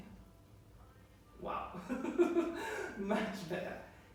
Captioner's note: laughing